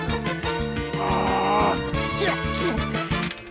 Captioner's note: grunts; strains